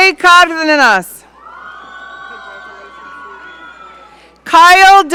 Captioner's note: audience cheering